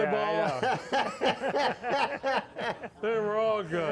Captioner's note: all laugh